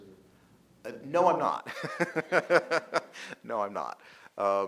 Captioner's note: laughing